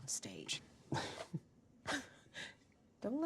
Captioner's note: chuckling